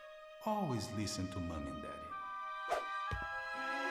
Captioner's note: echo-y Ethereal Voiceover